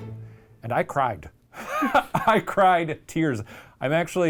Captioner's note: laughs